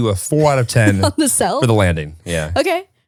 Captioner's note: chuckles